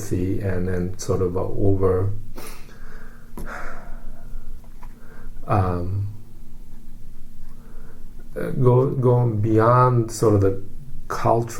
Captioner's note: sigh